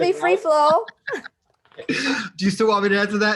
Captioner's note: laughing